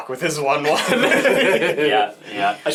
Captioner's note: all laugh